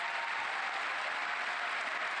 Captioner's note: applause